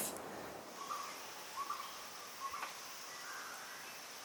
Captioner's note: birds calling